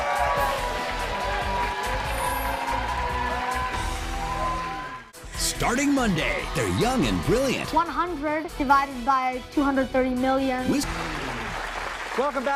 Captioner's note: cheers and applause